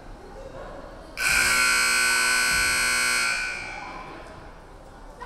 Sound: buzzer buzzing

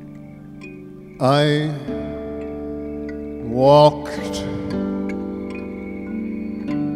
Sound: laughs

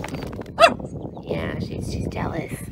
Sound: bark

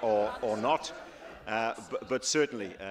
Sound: laughter

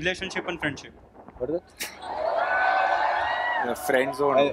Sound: cheering

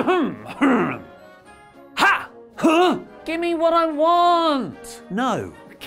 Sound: clears throat

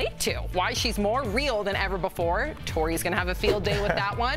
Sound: laughter

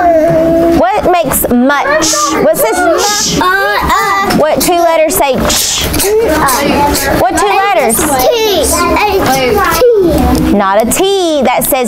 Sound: buzzing

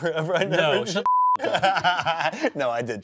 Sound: beep; laughs

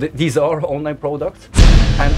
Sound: bang

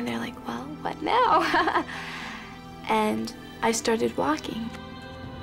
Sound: laughs

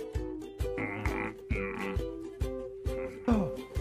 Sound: mmm!!

